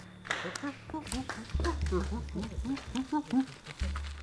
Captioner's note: neanderthal grunting